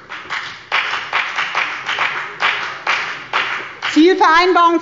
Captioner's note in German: Beifall bei der FDP